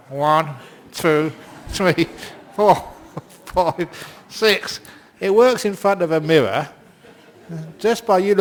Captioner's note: laughter